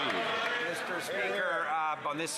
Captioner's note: some Applause